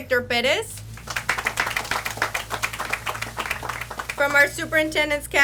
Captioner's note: audience applauds